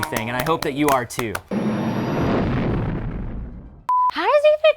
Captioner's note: engine blastoff